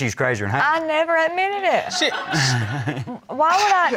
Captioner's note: crowd laughs